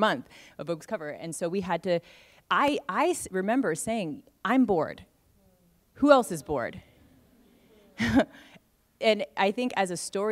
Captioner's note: laughs